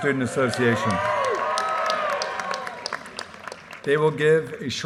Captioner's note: audience cheers and applause